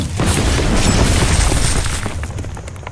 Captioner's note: exploding crash; ground rumbling